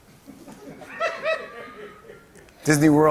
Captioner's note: laughter